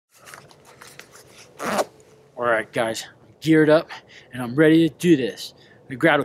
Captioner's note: zipper sounds